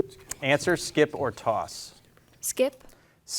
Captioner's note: beeper beeping